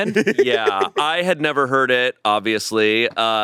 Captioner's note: laughs